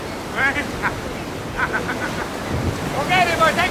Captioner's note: chuckling